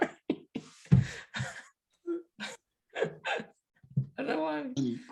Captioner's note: laughs